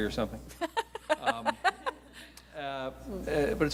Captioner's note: laughs